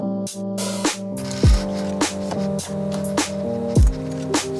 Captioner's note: paper scratching against embosser